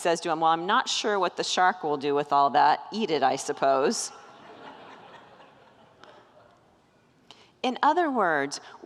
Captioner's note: congregants laugh